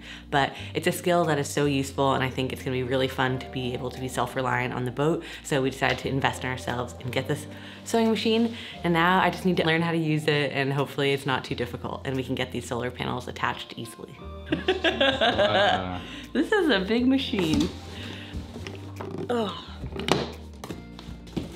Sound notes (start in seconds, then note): 14.6 laughing; 18.4 lighthearted music